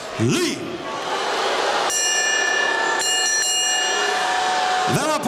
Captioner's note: bell ringing